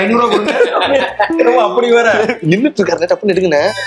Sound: laughs

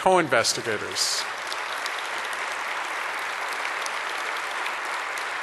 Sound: audience applause

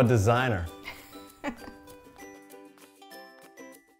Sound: laughing; fun music playing

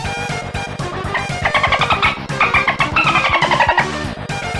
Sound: dolphin sound

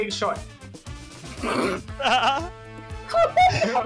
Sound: laughs

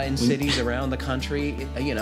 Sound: chuckles

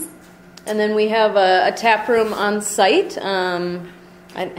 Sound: voiceover

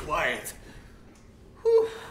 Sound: groaning; click

